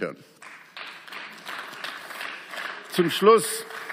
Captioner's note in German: Beifall